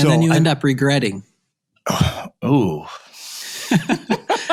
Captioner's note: laughing